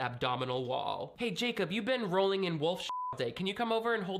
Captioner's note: beep